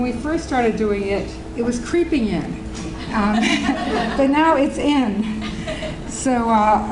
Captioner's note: audience Laughing